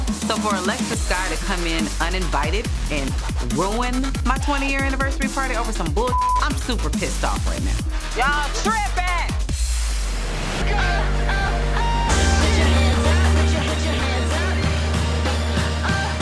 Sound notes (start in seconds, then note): 6.0 beep sound; 10.7 hip hop music